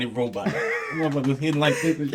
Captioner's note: laughing